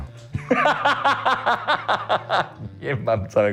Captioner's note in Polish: śmiech